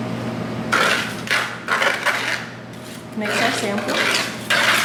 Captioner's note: metal scraping